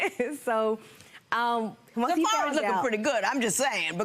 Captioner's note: laughs